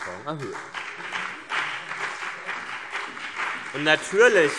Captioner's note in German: Beifall BÜNDNIS 90/DIE GRÜNEN und vereinzelt CDU